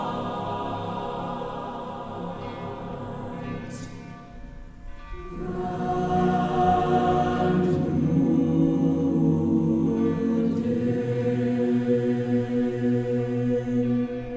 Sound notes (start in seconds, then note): 2.7 bell tolls